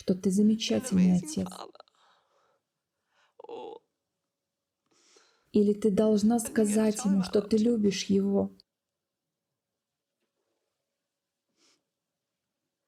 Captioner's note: silence